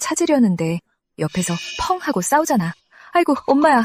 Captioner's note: bang